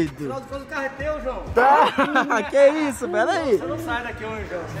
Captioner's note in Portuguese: Risadas